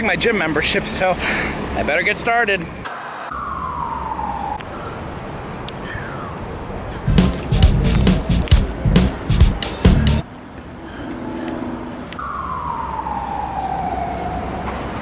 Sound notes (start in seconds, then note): 3.0 white noise scratching; 7.1 upbeat percussion music